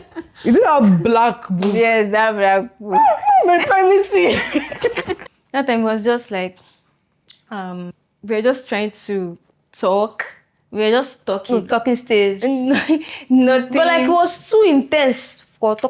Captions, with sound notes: Is it that black book? Yes, that black book. Oh, no! My privacy. [laughs] [laughs] That time it was just like- ... um, we were just trying to talk. We were just talking. To talking stage? And [laughs] like, nothing. But like, it was too intense for talking